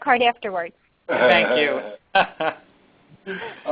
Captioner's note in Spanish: risas